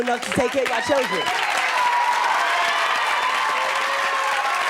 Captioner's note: audience cheering